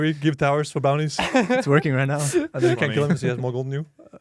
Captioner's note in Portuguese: risos